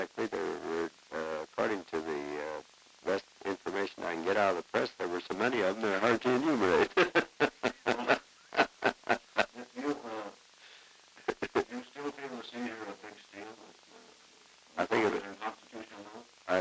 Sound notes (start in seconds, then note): 6.8 laughter